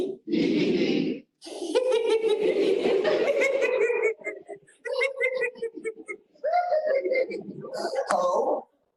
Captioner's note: laughter